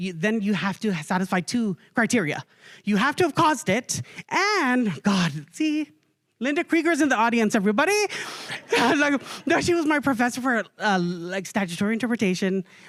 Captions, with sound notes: Then you have to satisfy two criteria. You have to have caused it. And - God see, Linda Krieger is in the audience, everybody - [chuckling] She was my professor for like statutory interpretation,